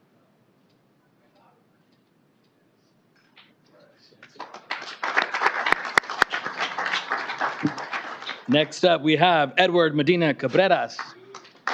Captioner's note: applause